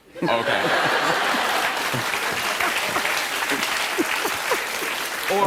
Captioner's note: laughter and applause